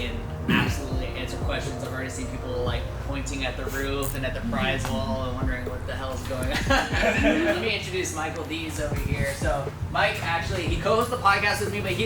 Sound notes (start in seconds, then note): 6.2 laughing